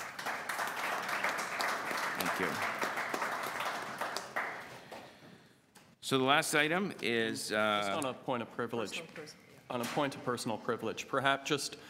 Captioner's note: applause